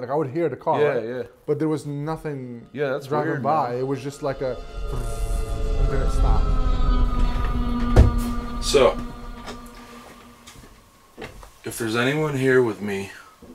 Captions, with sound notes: Like I would hear the car. - Yeah yeah. - But there was nothing driving by. - Yeah, that's weird. - It was just like a (imitates buzzing sound), then it stopped. (foreboding music) - So, if there's anyone here with me,